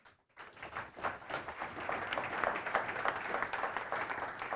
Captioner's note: audience applauding